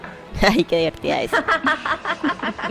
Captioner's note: laughs